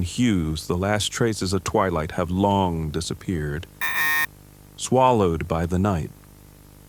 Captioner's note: static